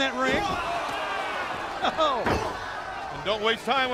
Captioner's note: crowd chatter